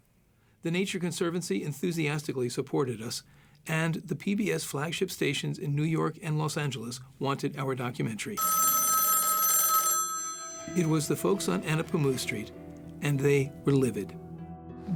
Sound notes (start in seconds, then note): 8.4 phone ringing